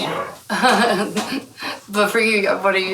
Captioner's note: laughing